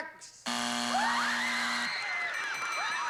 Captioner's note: buzzer